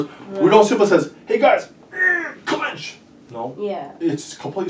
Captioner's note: groans